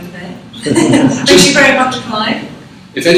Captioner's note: laughs